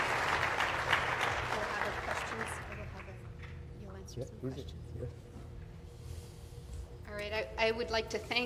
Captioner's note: applause